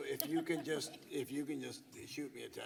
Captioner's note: laughter